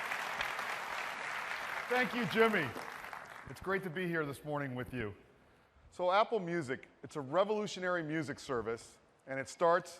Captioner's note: cheers and applause